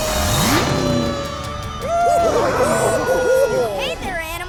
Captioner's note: animal sounds